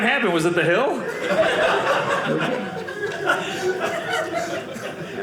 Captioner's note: audience laughing